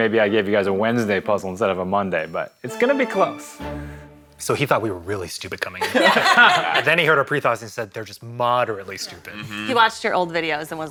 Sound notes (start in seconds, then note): 5.8 all laughing